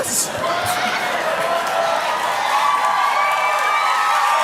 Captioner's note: crowd cheering